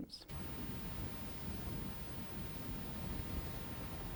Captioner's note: water splashing